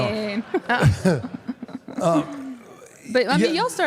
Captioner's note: audience and Michelle laughs